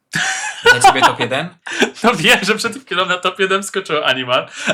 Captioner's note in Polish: śmiech